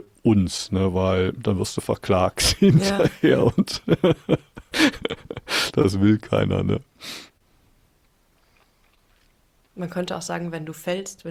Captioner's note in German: gelächter; schnauben